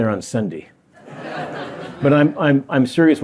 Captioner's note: laughter